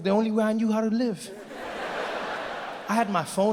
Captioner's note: audience laughs